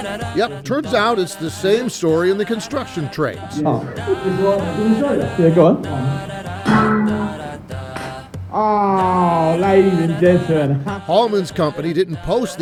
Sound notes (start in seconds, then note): 4.8 speaking quietly; 6.6 trowel clanging